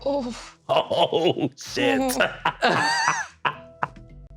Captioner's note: laughing